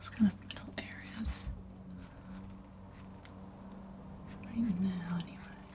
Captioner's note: scratching